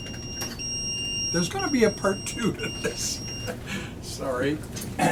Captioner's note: paging beeper goes off